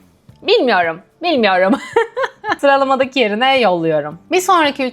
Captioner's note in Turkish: kahkaha